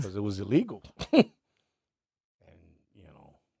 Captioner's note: laughs